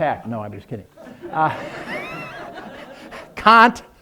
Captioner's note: laughing